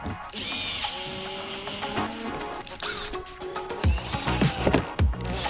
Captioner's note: drill whirring